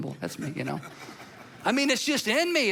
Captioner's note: audience laughs